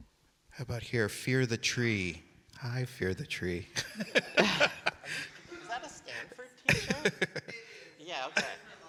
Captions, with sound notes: How about here, Fear the Tree? Hi, Fear the Tree. (audience laughing) - Is that a Stanford T-shirt? - It is. - Yeah, okay.